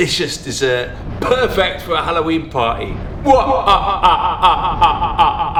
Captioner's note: cackles